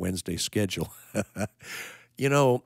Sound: chuckling

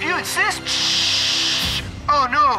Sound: Tom mimicking static

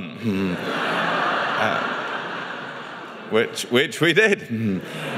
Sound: audience laughs

